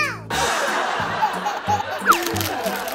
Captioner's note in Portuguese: Risadas ao fundo